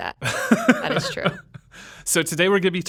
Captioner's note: laughing